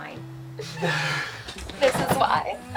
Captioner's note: laughing